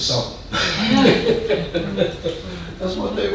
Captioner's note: man laughing